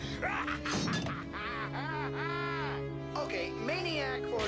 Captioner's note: laughs